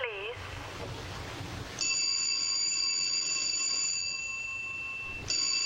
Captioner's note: telephone ringing